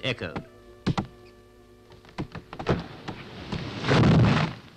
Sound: thump; thud

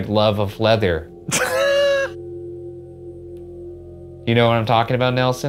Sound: chuckling

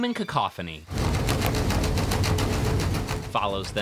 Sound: boat engine whirring

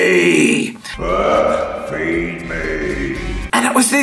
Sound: booming Voice

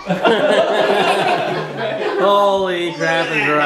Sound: laughing

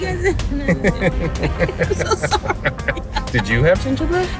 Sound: laughs

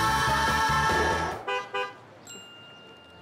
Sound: honking

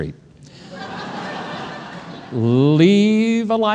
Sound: crowd laughing

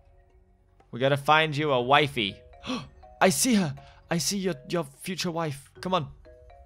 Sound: gasps

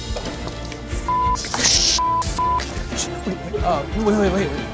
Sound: multiple beeps

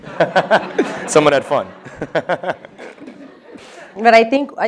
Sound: laughter; laughs

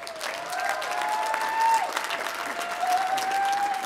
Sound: applause

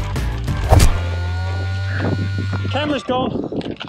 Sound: thud

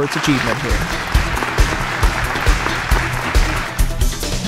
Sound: actual applause for the FX 5200

